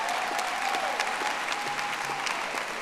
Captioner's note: audience applauding